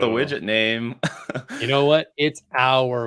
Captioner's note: laughs